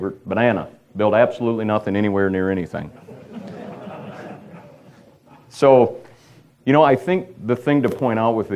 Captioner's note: audience laughter